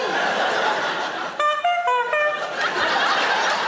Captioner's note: honking sound; audience laughing